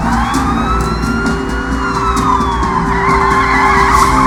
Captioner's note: tires screech